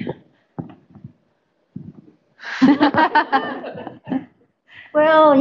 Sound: laughter

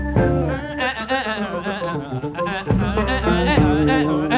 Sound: vocalizing

